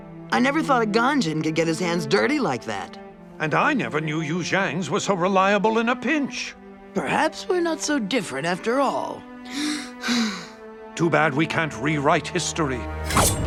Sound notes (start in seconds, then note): 9.5 sighs